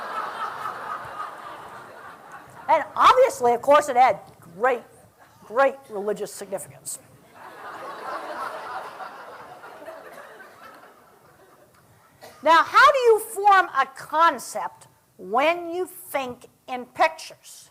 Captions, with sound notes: [ LAUGHTER ] AND OBVIOUSLY, OF COURSE, IT HAD GREAT, GREAT RELIGIOUS SIGNIFICANCE. [ LAUGHTER ] NOW, HOW DO YOU FORM A CONCEPT WHEN YOU THINK IN PICTURES?